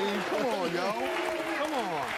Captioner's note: audience booing